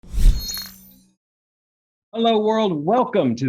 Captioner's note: whoosh sound